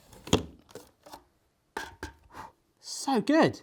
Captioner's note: thudding